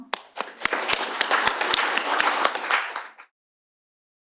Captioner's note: applause